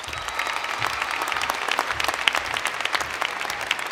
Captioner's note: applause